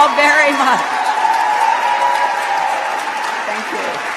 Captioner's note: cheers